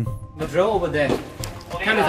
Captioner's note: excited shouts